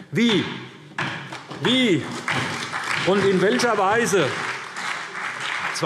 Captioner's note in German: Beifall SPD und DIE LINKE